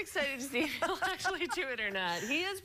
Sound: laughter

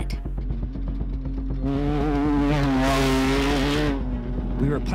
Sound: Loud Side by Side Engine Noise

